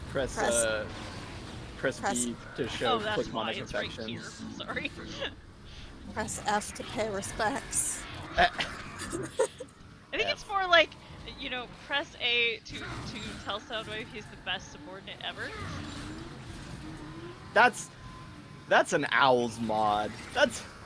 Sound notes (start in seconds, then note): 8.4 laugh